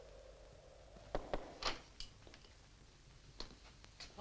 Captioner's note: knock on door